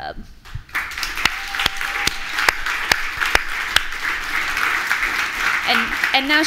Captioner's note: applause